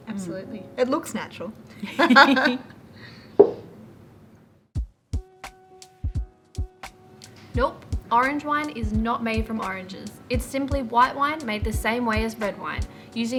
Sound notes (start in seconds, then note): 1.8 bottle thudding; 1.8 laughing